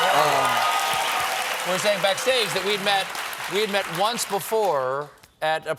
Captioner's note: applause